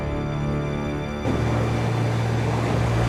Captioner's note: motor whirring